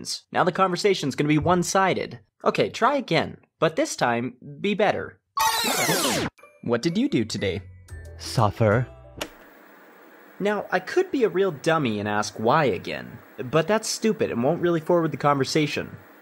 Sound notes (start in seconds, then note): 5.4 rewind sounds